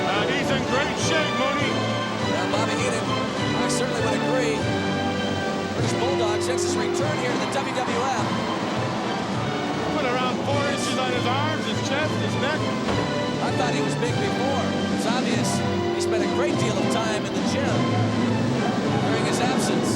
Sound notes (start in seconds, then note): 7.9 audience cheers